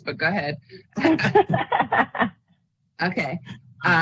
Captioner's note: laughs